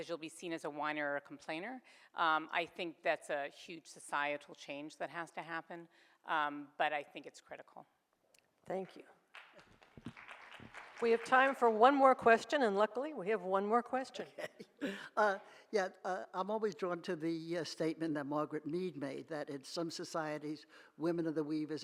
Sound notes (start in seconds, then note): 9.3 audience applauds; 15.2 laughs